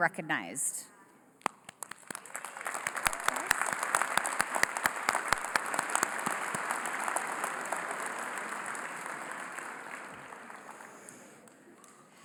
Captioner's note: applause